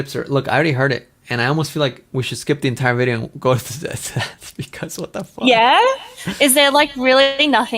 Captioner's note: laughs